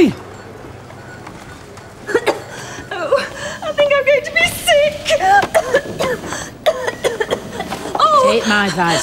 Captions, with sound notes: - I think I'm going to be sick! (coughs) - Take my advice love, smoke your way through it.